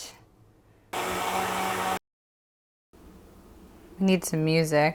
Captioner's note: blender whirring